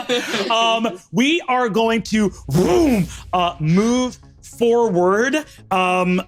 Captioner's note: vocalizes air whooshing